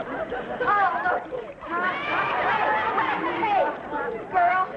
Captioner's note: audience laughing